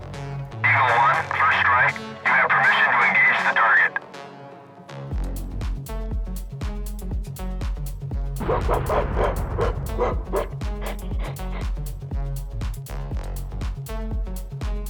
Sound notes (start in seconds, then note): 8.4 explosion sounds; 8.4 angry ape sounds